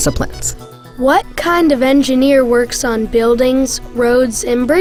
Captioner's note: voiceover